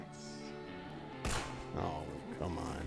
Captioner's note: gun fires